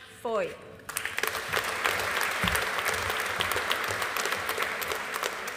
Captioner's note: audience applauding